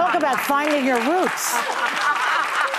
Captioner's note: audience laughing